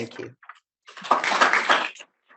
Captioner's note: audience applauding